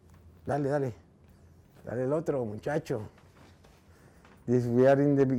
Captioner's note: speaking in foreign language